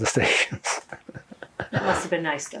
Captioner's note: laughing